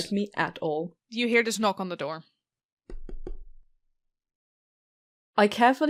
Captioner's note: knocking